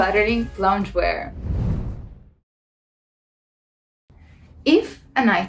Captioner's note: air whooshing